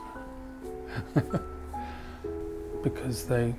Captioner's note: chuckling